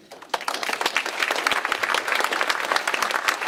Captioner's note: applause